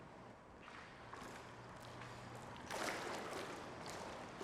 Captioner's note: water splashes